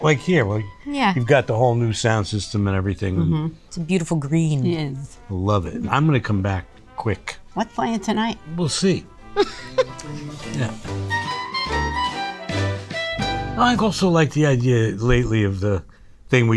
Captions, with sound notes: Like here, like you've got the whole new sound system and everything. - It's a beautiful green. - It is. - I love it. I'm gonna come back quick. - Let's fly in tonight. - We'll see. [Rhea laughs] Yeah. [instrumental jazz music] I've also liked the idea lately of the thing